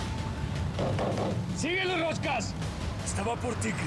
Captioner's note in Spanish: ruido al acelerar; golpes